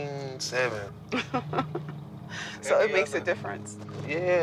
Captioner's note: laughs